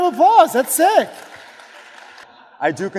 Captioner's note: audience applauds